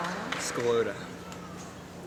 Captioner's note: applause